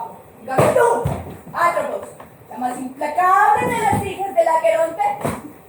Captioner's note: none